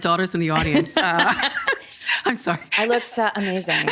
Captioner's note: laughing